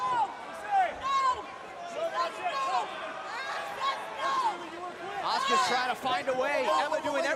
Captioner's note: crowd chatter